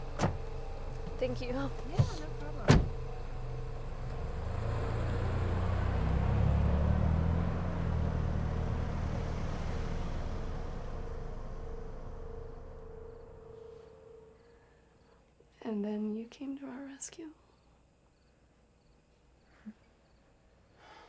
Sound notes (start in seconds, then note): 0.1 door slams; 2.6 door slams; 3.7 engine revving; 3.7 tense music; 12.3 crickets chirping; 17.4 crickets chirping; 20.8 Tyler exhales